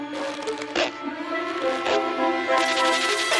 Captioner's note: squeak! Squeak!; whoosh! Boing!